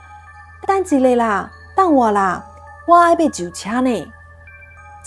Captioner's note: Taiwanese